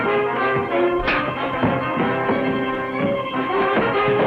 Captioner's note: punch lands